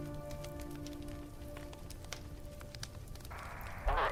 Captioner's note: fire crackling